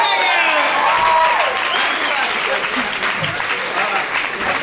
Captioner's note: cheers and applause